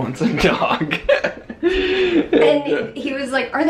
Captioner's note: chuckles